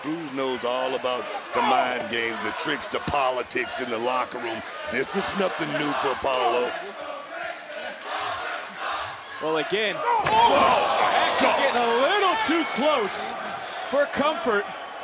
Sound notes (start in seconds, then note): 9.1 crowd chants "waller sucks"